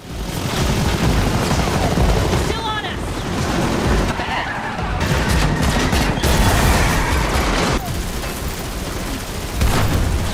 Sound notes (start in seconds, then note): 3.9 gunshots